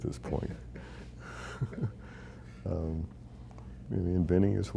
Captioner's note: chuckling